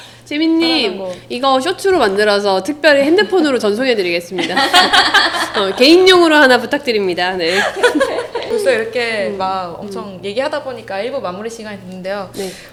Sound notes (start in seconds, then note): 4.4 ha ha ha ha ha ha ha ha; 7.4 laughs